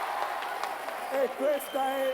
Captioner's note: Applauso